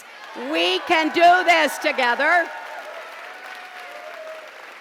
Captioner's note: pause, applause